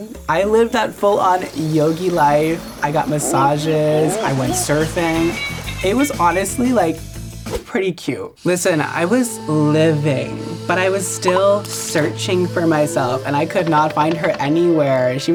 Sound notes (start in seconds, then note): 9.4 soothing tone plays